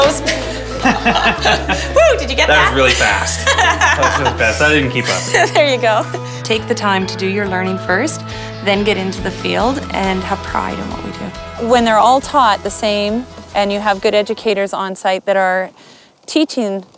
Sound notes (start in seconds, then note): 2.6 laughter; 4.9 laughs